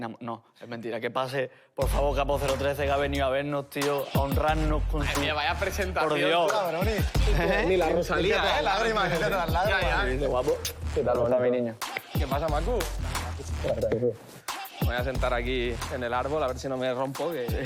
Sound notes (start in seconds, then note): 7.0 laughs